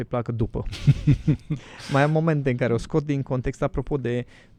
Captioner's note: laughter